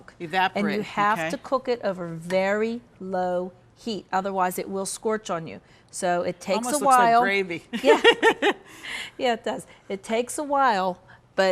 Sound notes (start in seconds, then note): 8.2 host laughs